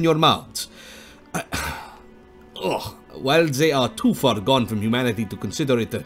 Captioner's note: sigh